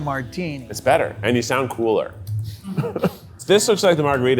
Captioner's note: laughs